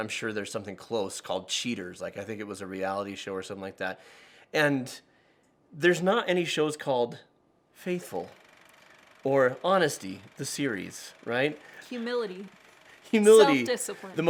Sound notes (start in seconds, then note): 7.8 film reel whirs